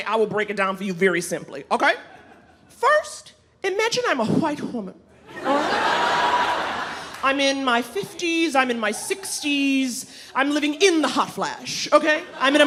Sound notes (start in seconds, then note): 5.3 audience laughing; 11.9 audience laughing